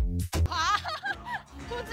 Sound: hahaha!

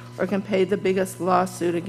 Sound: none

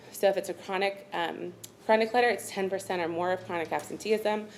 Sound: none

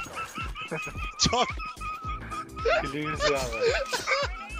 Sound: funny teammate laugh

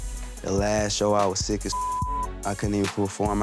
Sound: beep

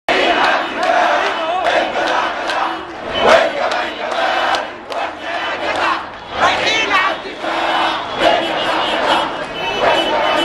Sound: chants

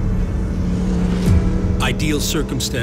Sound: scooter engine revving

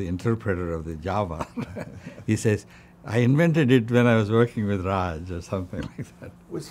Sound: laughs

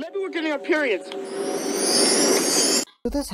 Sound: sparkle noises

